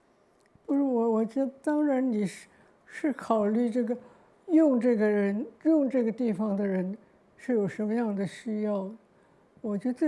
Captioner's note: Mandarin